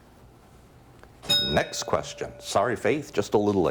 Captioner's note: bell dings